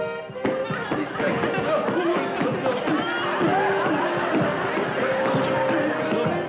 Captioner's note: chanting